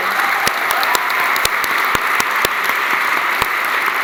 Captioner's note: applause